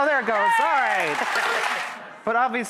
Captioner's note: applause